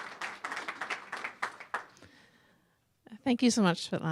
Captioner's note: applause